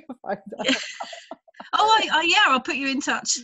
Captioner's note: both laughing